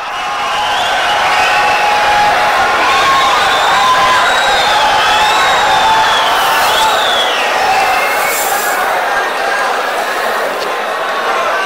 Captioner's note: wild applause and cheering for 22 seconds